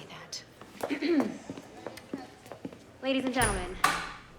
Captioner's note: Madeleine clearing her throat